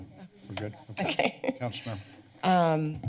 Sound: laughs

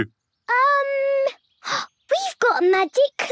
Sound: gasps

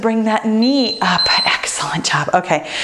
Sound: timer beeps

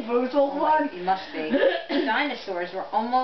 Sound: clears throat

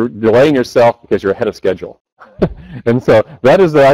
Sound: chuckles

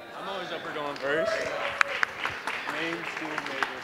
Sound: applause, cheering

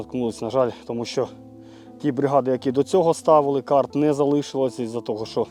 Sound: Ukrainian

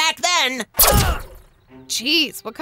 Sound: body buzzes

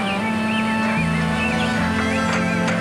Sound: knocks

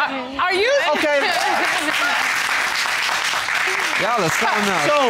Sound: applause

